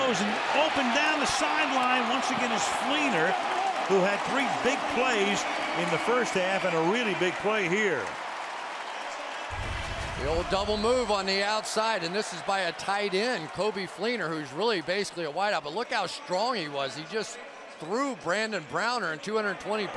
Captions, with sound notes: Luck throws. And open down the sideline once again is Fleener, who had 3 big plays in the first half and a really big play here! [cheering] [pa announcement] The old double move on the outside. And this is by a tight end, Coby Fleener, who's really, basically, a wideout. But look how strong he was. He just threw Brandon Browner in,